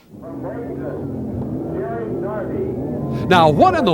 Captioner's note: engines rumble